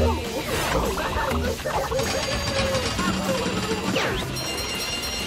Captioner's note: machine dings; bells sound as johnny racks up points